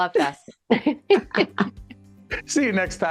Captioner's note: laughing